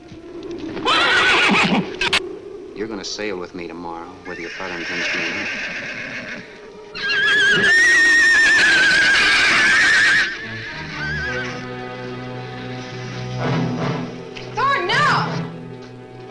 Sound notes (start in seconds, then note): 0.7 horse neighs; 6.9 horse neighs wildly; 6.9 shrews screech; 10.2 ominous orchestral music